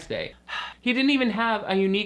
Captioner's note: sighs